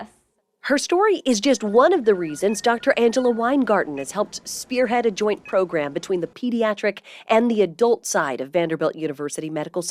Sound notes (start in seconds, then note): 1.4 equipment blipping distantly